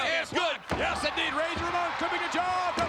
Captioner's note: spectators cheering